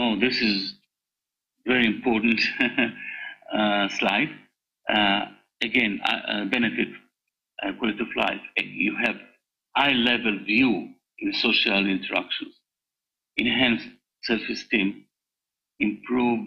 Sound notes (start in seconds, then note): 2.3 laughs